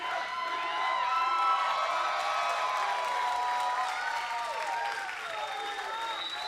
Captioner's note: crowd cheers; crowd whistles